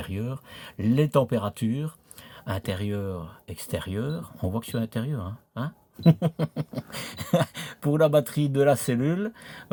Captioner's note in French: rires